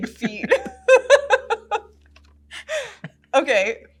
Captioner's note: laughs